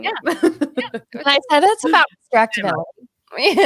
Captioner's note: laughing